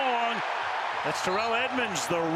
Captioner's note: cheering